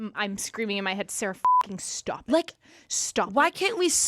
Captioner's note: beep